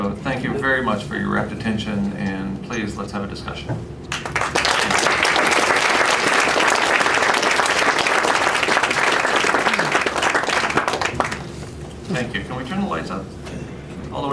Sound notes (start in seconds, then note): 4.1 applause